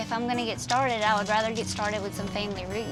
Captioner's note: baby bottle shakes, rattles